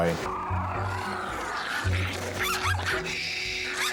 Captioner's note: Flossie growling and barking